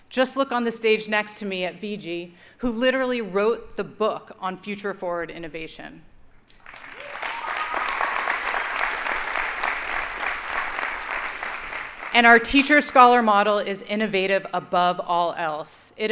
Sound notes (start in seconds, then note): 6.5 audience applauding